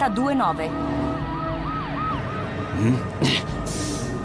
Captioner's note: siren wailing